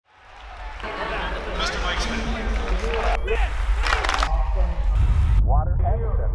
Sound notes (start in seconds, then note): 0.0 crowd cheering; 3.9 clapping